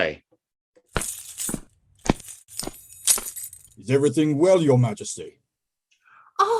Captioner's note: the guard passes by again, keys jingling, and looks in